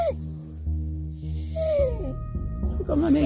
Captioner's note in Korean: 끼잉